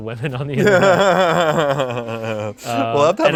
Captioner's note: laughs